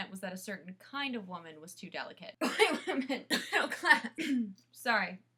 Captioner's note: coughing